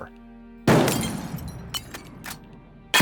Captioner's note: gunshot